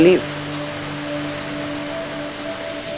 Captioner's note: Raining